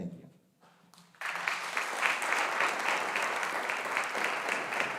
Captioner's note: audience applauding